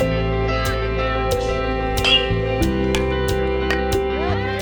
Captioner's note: bat pings